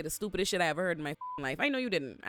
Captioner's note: beep